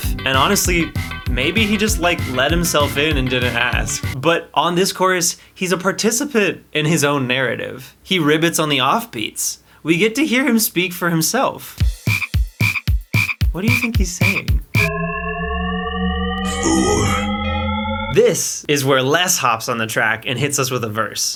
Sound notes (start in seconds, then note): 14.7 shepard tone